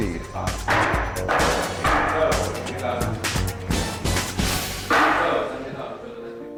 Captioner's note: upbeat techno music; gavel banging